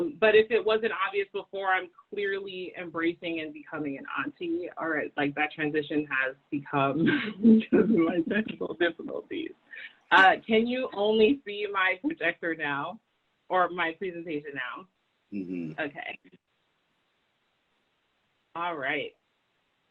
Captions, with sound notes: But if it wasn't obvious before I'm clearly embracing and becoming an auntie. Alright like that transition has become (laughs) my technical difficulties. Can you only see my projector now or my presentation now? - Mhmm. - Okay. All right.